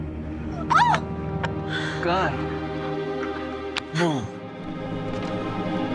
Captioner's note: clerk shouts